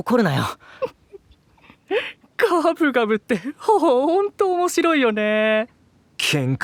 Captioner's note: giggling